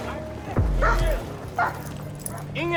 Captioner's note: dog barks